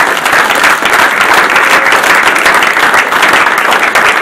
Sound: audience applauding

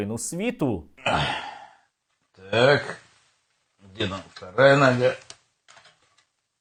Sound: grunt

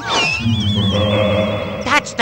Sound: laughs

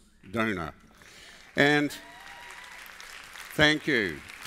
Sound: applause

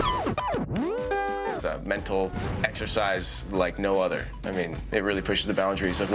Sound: arcade sounds

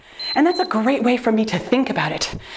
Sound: timer beeps

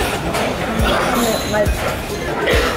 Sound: coughing

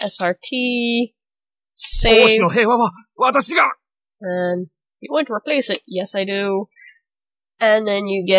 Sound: error sound: oushi no heya wa, watashi ga!

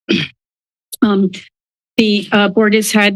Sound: clears throat

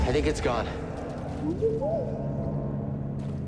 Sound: boo-bee-boop

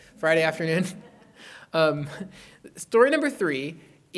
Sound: laughter

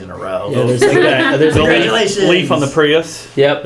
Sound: laugh

